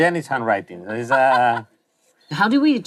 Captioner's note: laughs